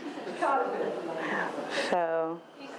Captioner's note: woman speaks faintly